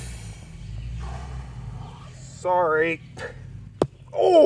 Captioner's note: sighs